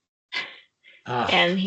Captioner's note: chuckling